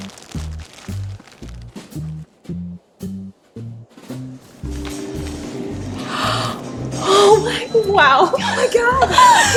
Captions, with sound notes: (gasps) Oh my, wow. Oh my God.